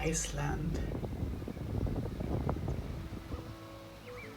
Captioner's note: birds chirping; wind howling; gentle music